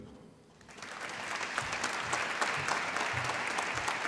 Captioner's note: applause